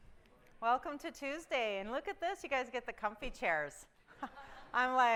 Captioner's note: laughter